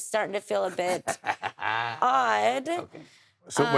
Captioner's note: laughing